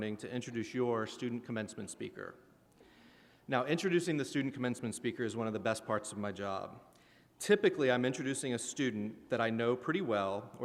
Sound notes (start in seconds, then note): none